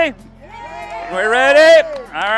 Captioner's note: crowd cheering